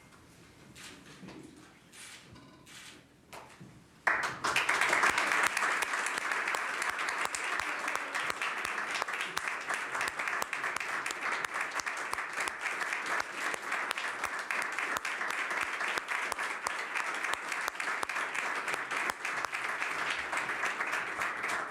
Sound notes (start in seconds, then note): 10.7 applause